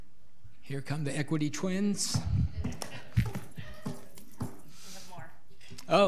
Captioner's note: audience laughing